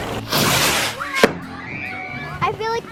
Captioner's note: cinematic western music; fireworks popping